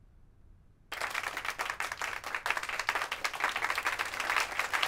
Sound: crowd applauses; applause grows louder

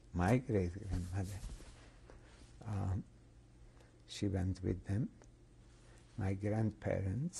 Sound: pauses for 3 seconds

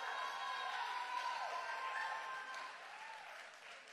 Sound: crowd cheering

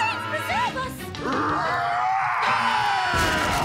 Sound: growling

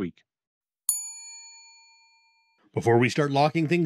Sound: bell dings

